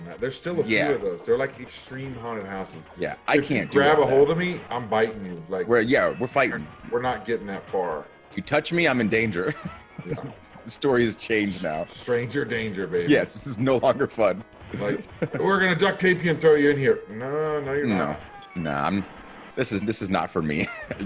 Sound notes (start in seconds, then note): 9.2 laugh; 14.7 laugh